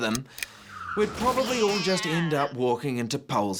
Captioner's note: car crashing, cat screeching